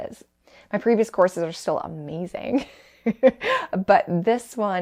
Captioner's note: laughs